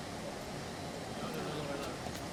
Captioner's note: people murmuring